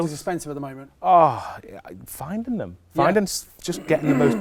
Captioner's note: groans